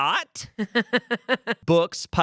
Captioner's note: Amanda laughs